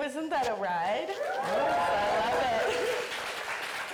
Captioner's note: audience cheering; audience applauding